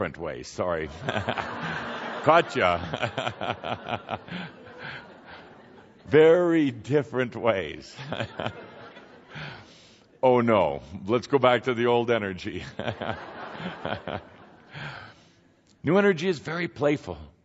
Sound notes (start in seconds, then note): 0.9 laughter; 4.7 Kuthumi laughing; 12.6 laughter as Kuthumi jests about the misspoken word